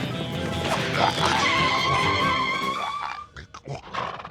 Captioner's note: dinosaur skids